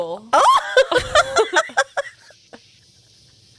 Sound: panel laughing

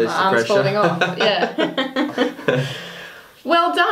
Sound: laughs

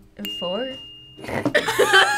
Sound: bell dinging; laughing

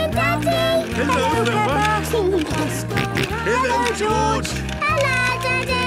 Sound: George giggling and snorting

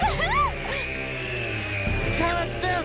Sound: laughing; woman screaming

